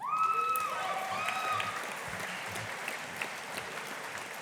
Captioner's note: audience applauding